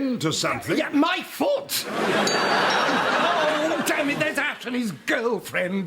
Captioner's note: doorbell tinkles